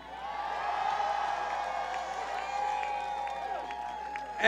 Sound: cheers

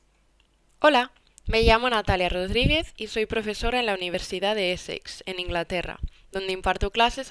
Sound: speaking in Spanish

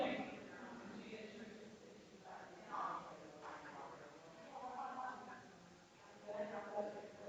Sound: people chattering distantly continues

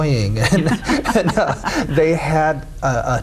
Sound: laughing

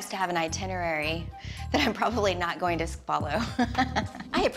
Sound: laughs

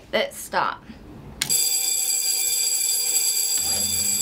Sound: bell ringing

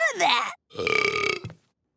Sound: burping

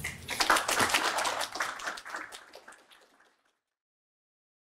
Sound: audience applauding

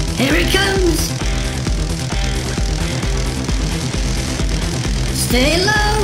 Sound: crackling electricity

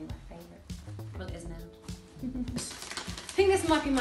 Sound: laughs

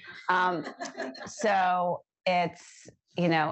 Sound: laughter

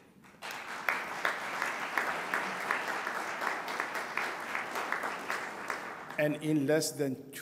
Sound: applause

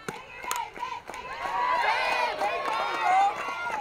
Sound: crowd cheering

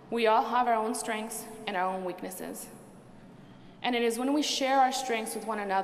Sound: none

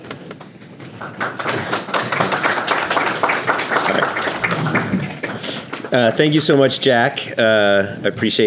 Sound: applause

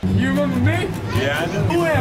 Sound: guy voiceover, as girl

